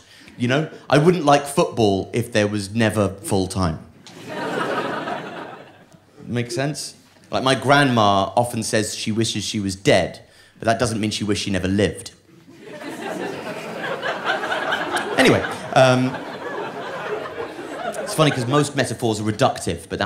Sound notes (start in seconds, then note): 12.4 audience laughing